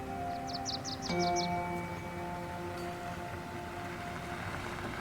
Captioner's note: birds chirping; gentle music